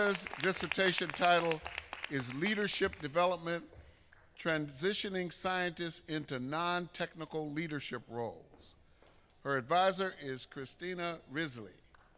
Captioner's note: applause